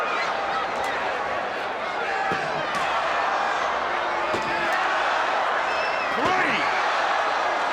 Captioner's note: crowd chatter